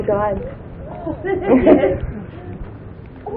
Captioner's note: Gülüyorlar